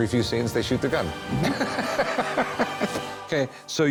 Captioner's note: laughs